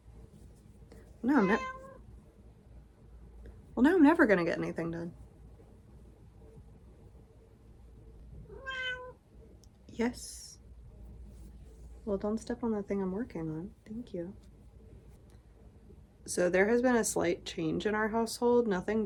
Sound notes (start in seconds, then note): 1.3 meow; 5.6 meow